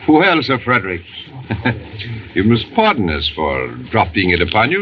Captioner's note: chuckles